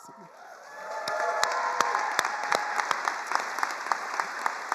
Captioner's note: attendees applauding